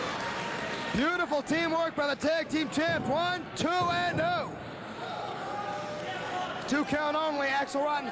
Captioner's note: cheers and boos